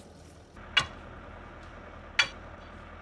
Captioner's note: distant excavator hum